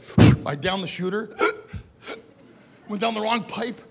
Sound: gasps

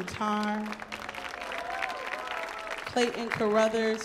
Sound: audience cheers

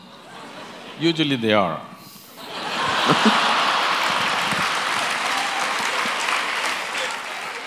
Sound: laughter & Applause

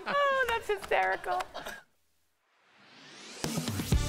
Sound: laughter

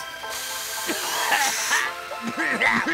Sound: coughing

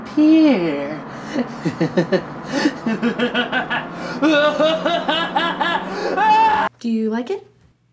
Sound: maniacal chuckle

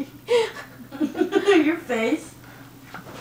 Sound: laughs

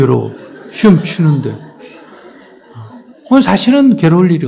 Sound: audience Laughter

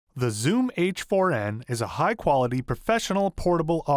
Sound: voiceover

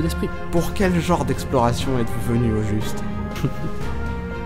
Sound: laughs

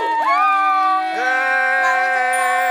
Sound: exclaiming

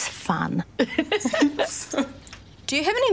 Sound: all giggling

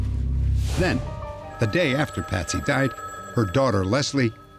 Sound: phone ringing

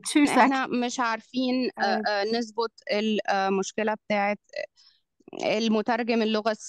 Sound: interpreter speaking in foreign language

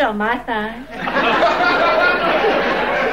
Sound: audience laughing

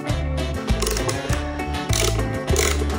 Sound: torquing

